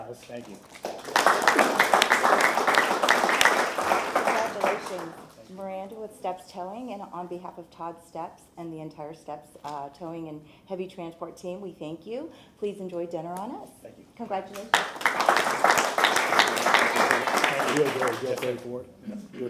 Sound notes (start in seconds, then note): 4.8 applause